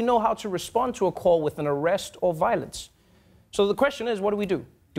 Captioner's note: none